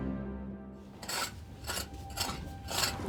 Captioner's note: digging noises